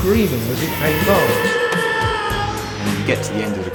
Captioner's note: ghost screams